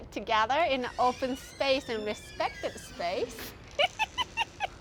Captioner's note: laughs